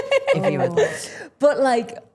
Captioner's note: Becky laughing